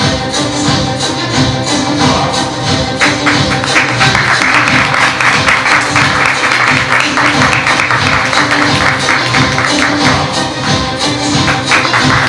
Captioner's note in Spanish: Aplausos